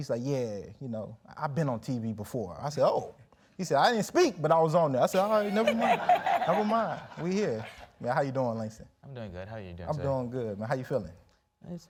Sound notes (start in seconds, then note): 7.7 audience laughs